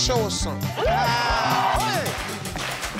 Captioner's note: audience cheers